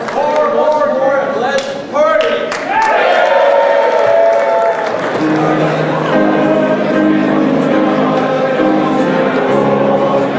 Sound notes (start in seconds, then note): 2.4 crowd cheering